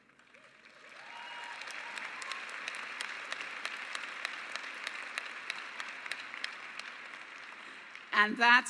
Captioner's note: applause